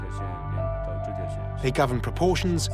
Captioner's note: speaking Tibetan